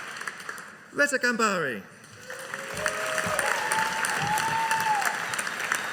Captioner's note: audience applauding